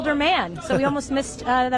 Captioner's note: laughs